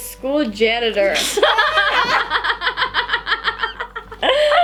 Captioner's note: laughing